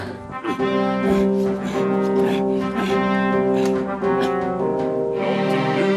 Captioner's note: fateful music; LeChuck grunts